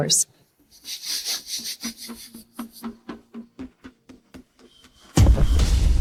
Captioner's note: sniffing